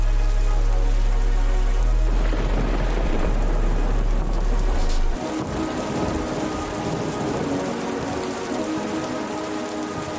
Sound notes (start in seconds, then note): 1.6 thunder rumbling